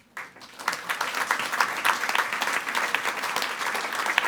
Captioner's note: all applauding